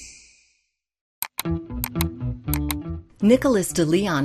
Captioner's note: clicking